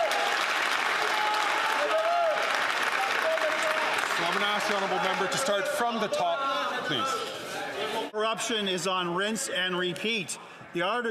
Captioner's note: some Applause